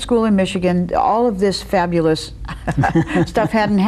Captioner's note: laughs